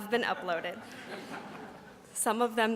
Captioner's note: audience laughs